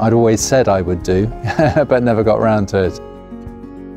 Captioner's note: laughs; pleasant piano and guitar music